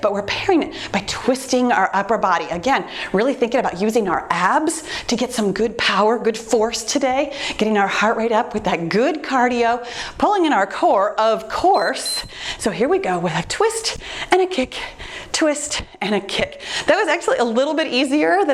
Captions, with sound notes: but we're pairing it by twisting our upper body. Again, really thinking about using our abs to get some good power, good force today. Getting our heart rate up with that good cardio. Pulling in our core, of course. (timer beeps) So here we go with a twist and a kick, twist and a kick. That was actually a little bit easier